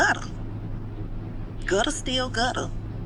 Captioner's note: neighborhood background noise